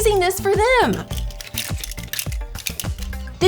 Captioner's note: clicking